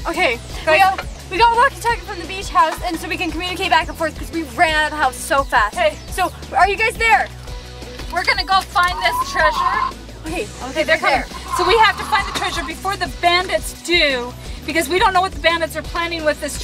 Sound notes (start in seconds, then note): 9.9 static crackles